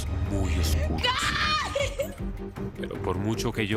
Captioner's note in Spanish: Sollozos